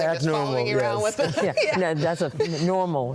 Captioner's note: laughs